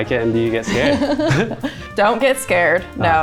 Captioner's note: both laughing